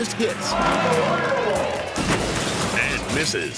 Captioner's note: crowd groans; car crashes